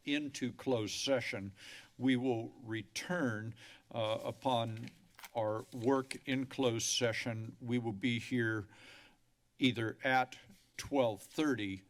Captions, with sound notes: into closed session. [inhales] We will return [pages flipping] upon our work in closed session. We will be here [inhales] either at 12:30,